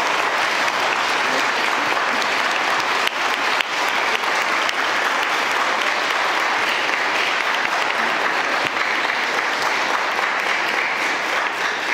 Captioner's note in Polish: oklaski